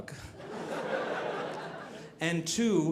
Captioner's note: audience laughing